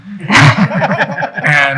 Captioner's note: people laughing